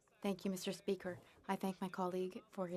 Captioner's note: speaking French